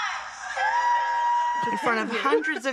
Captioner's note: audience cheering